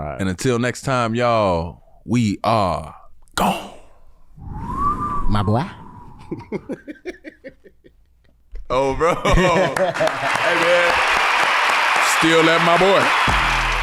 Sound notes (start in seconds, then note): 4.5 brothers whistling; 6.2 chuckles; 9.6 crowd clapping